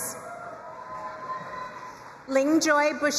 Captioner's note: crowd cheering and applauding